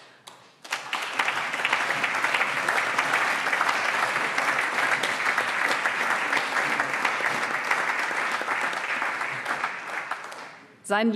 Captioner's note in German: Allgemeiner Beifall